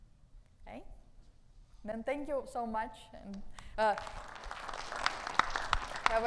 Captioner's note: audience clapping